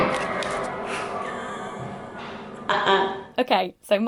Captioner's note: laughing